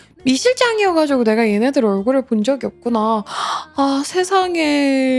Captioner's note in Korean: 한숨; 헉 소리